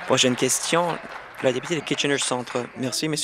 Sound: applause

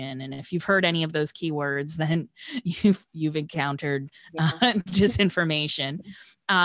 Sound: chuckling

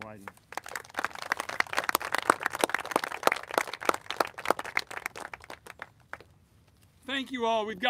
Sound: applauses

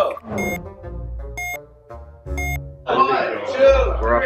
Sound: timer beeping

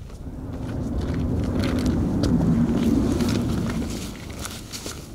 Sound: wind

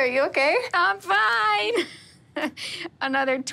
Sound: laughs

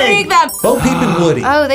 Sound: gasps

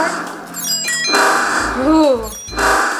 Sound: electronic dings

